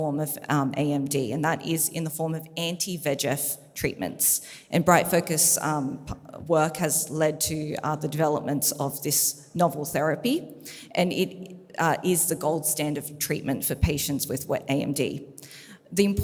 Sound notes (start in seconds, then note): none